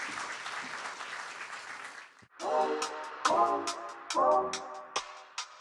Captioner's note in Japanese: 拍手